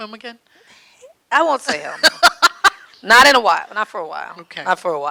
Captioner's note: laughing